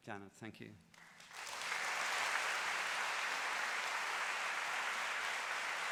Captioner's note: applause